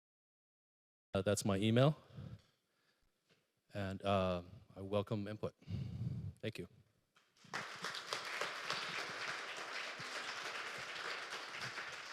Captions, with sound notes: That's my email and I welcome input. Thank you (applause)